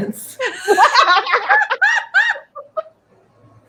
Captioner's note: all laugh